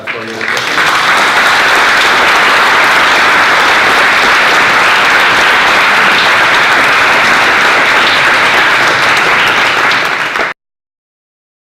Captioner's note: applause